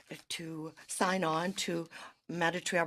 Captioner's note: speaking in French